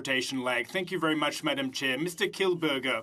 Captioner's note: speaking French